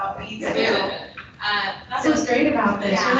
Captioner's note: people chuckling